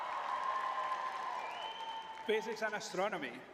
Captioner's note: cheering